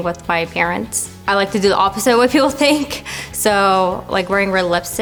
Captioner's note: laughs